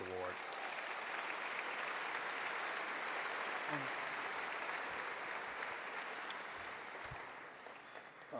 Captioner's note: applause